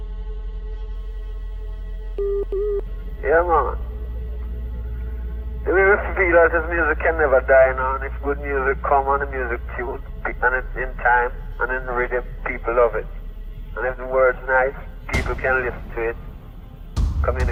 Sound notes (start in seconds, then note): 0.3 ominous music; 2.2 beeping